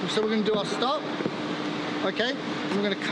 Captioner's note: none